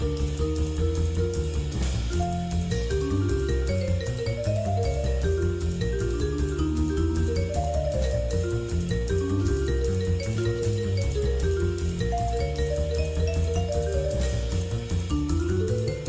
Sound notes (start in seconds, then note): none